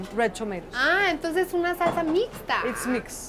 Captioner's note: speaking Spanish